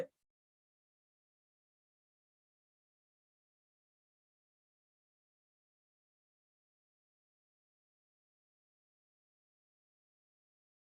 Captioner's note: no response